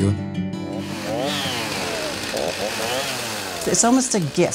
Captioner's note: chain saw buzzing